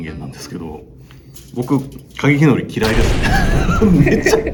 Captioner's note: laughter